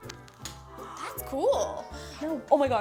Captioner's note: gasps